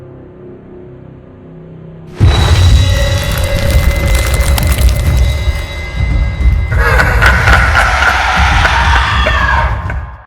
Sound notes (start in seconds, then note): 2.2 crashing; 6.7 ghostly evil laughter